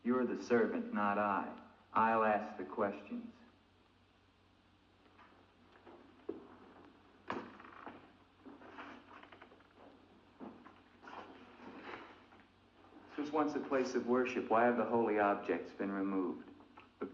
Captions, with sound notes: You're the servant, not I. I'll ask the questions. (Andre's footsteps) - This was once a place of worship. Why have the holy objects been removed?